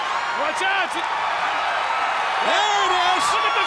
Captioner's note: audience cheers